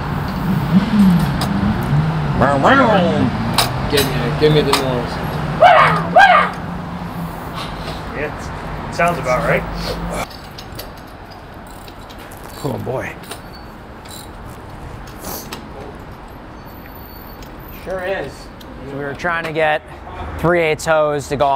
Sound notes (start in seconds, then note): 0.0 car revs; 5.6 man yells